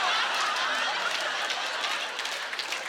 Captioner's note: laughter; applause